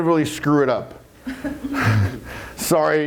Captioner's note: laugh